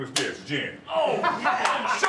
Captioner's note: laugh